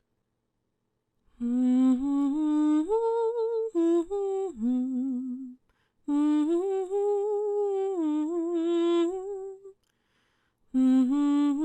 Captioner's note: humming